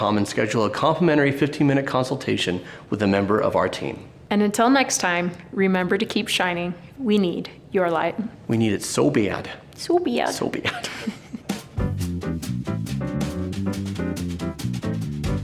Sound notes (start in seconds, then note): 10.6 both laughing amusingly